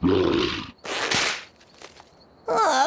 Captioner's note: growls; creak! Snap!